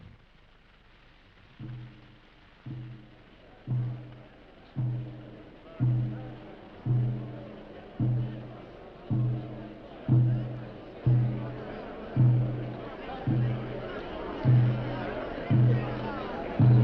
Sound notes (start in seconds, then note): 2.1 slow percussive music; 4.4 people chattering